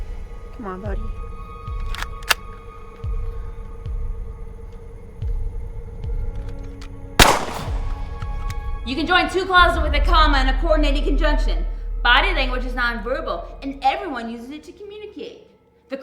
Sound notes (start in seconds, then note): 7.2 gun fires